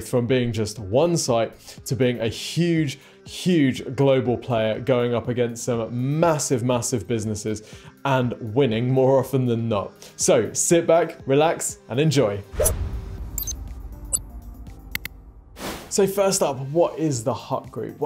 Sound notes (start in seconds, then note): 12.6 graphic whooshes; 13.3 graphic blips; 14.9 button clicks; 15.5 screen wipe whooshes